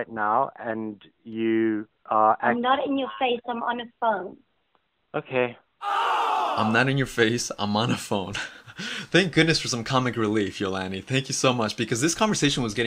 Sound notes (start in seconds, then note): 5.8 ooh! fx sound; 8.4 laughs